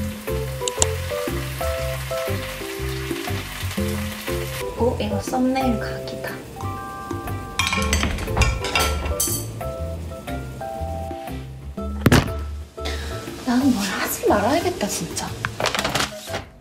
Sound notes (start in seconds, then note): 7.6 bang!; 12.0 camera falls